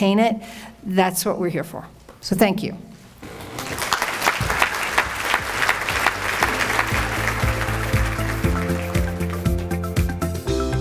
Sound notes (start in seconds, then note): 3.2 audience applauds; 7.9 bright music